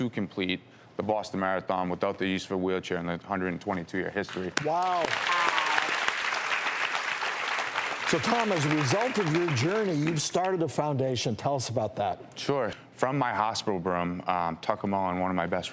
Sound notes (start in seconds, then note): 6.4 audience claps